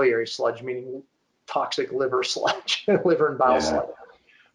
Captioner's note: chuckling